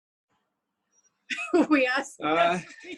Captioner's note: chuckles